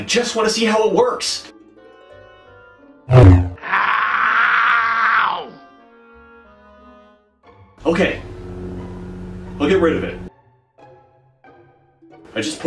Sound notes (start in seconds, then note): 3.1 beam rod sounds